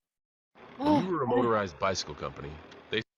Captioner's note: exclaims